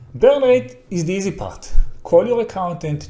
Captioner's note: none